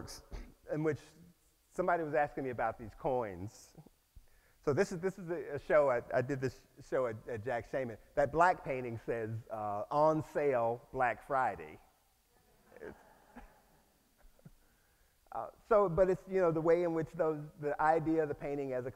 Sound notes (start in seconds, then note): 12.1 audience laughs